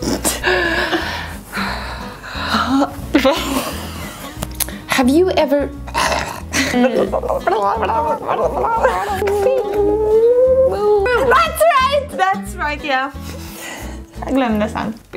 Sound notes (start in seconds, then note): 0.0 breathes heavily; 3.1 start laughing; 5.8 coughs